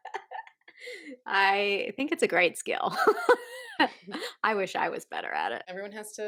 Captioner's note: laughter